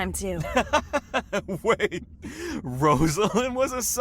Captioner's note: laughs